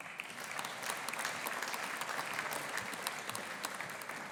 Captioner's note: audience applauding